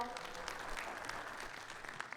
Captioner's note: audience clapping